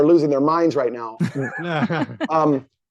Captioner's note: laughing